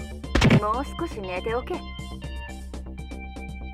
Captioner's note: crack!